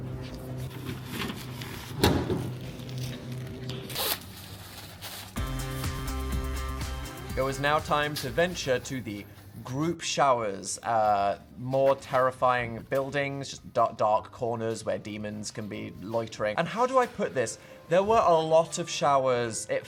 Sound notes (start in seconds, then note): 0.0 vending machine rustling; 3.8 plastic hissing; 5.4 bright upbeat music